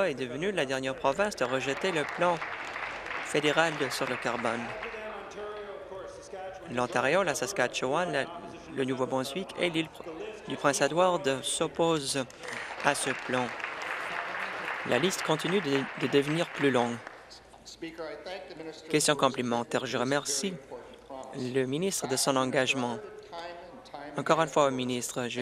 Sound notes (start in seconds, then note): 5.9 applause; 16.3 applause